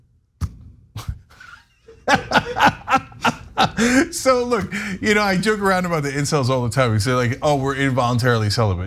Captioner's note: laugh